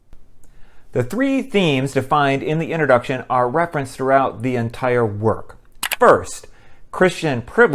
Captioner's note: click